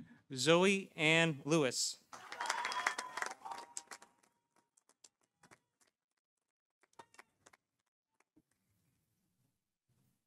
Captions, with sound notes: Zoe Anne Lewis. -(audience cheering) -(audience applauding)